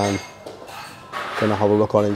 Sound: utensils clang in the background

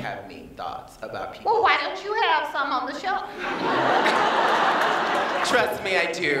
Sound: laughter

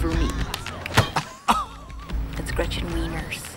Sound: blonde women titter

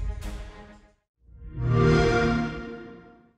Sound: xbox sound

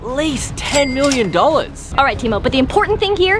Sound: cash register ding

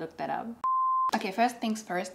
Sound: audible beep

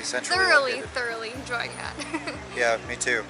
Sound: laughs

